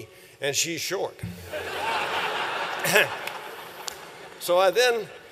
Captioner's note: laughter